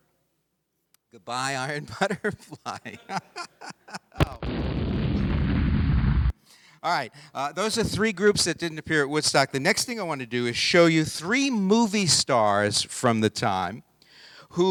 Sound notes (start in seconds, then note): 1.8 laughing; 4.2 explosion sound effect